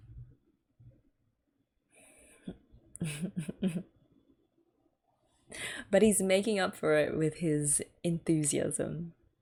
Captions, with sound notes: [laughs] But he's making up for it with his enthusiasm.